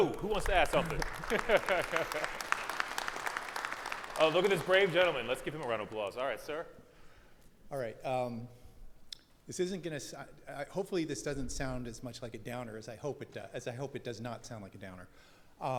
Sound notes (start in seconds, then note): 0.0 audience clapping; 0.7 laughs